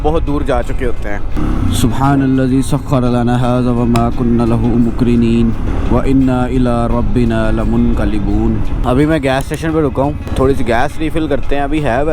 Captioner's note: reciting a short dua